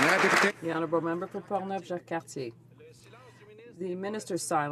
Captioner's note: some Applause